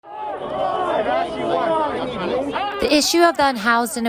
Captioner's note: crowd yelling